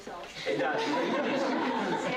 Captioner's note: laughter